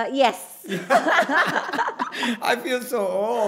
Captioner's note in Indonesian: tertawa